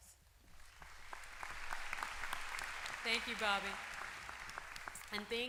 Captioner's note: applause